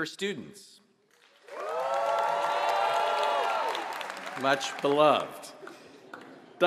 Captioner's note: applause